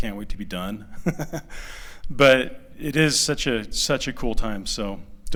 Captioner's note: laughter